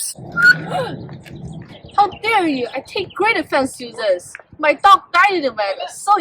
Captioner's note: gasps loudly